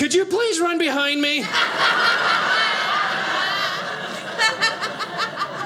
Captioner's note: audience laughing